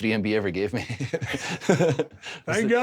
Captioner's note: Drew chuckles